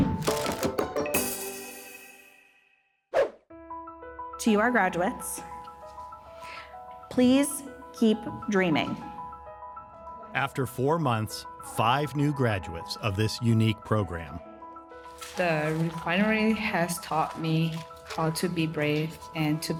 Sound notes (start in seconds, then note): 0.0 upbeat music; 3.2 swoosh; 3.7 gentle music; 5.5 gentle music; 9.2 gentle music; 14.6 gentle music